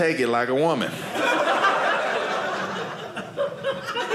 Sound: audience laughing

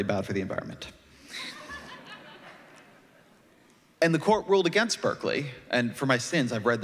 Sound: laughter

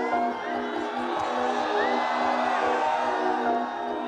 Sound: screams and Applause; music w/ Screams and Applause

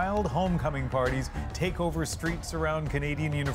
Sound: cheers and Applause

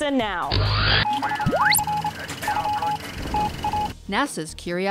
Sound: sound Effects

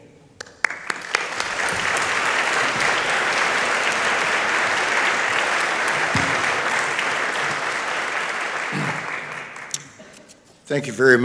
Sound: applause

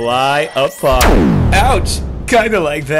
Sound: explosion

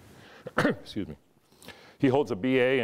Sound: coughs

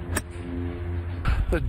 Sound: nats: sound of golf ball hit

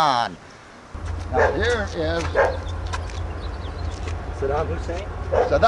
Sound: approaching train sound

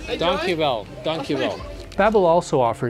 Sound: speaks in Dutch

